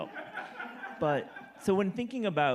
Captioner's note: audience laughing